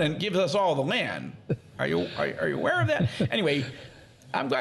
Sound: laughing

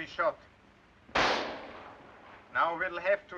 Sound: gunshot

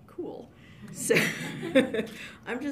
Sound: laughs

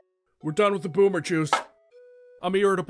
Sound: boomer can dropped

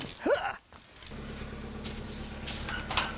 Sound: grunt; engine

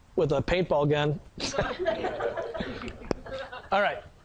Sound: sound of laughing from audience

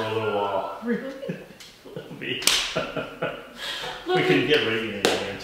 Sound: laughing

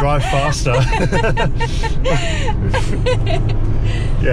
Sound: laughing

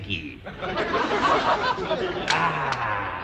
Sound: audience laughter

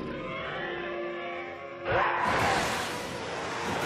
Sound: distant growling

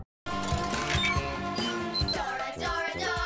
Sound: email noises

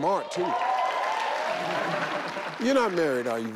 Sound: audience cheer

